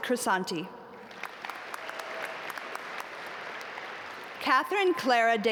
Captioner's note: audience applaud